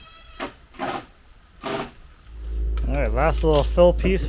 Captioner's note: drill whirring